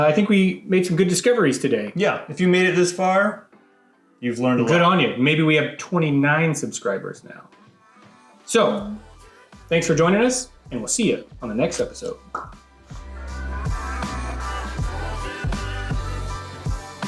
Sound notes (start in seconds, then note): 11.9 pops; 13.6 upbeat music